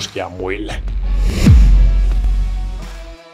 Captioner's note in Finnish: siirtymä-äänitehoste